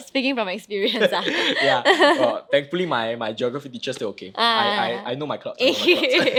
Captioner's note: both laughing